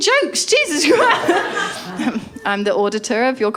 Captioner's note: laughter